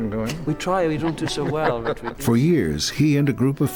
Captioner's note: laugh